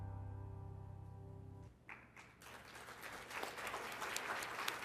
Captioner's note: applause